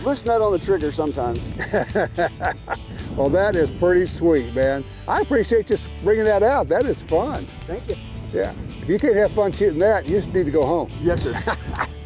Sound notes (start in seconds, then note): 1.5 laughs